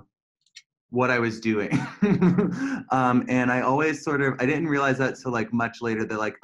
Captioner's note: laughter